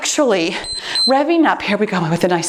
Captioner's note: timer beeps